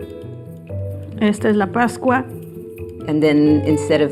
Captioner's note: speaking spanish